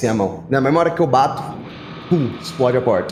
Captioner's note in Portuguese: Pow